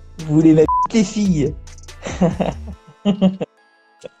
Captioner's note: laughs